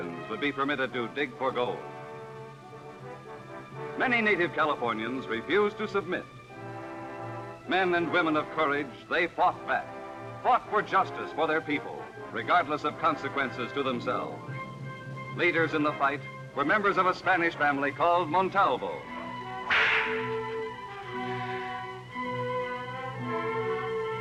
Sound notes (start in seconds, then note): 19.6 cracking whip; 21.1 cinematic classical music